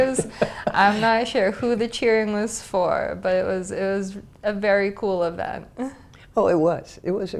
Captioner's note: laugh